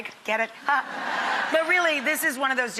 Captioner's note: audience laughing